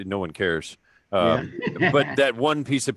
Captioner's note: laughing